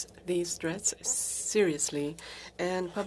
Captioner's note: speaking FRENCH